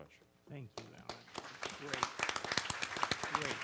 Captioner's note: handclaps